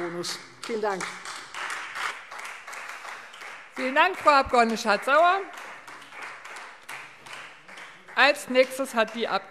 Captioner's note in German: Beifall Freie Demokraten